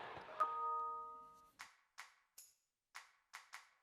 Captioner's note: phone beeps